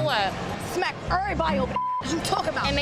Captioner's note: beeps